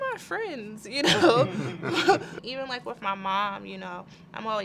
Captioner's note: laugh